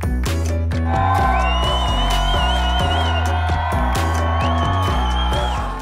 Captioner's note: upbeat music; cheering